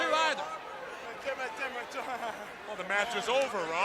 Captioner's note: crowd chatter